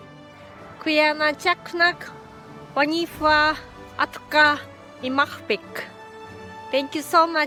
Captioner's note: speaks indigenous language